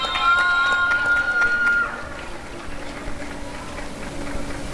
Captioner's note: applause and cheering